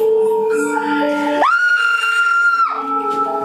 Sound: scream

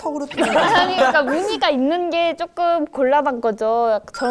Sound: stutters

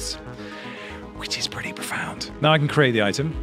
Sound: whispers

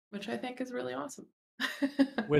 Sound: laughs

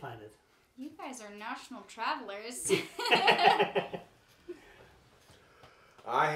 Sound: laughs

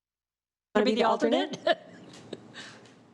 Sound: laughs

